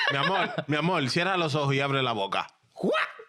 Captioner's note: speaking In Foreign Language